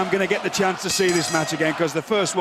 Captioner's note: bell ringing